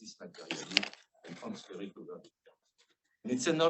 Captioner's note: speaking faintly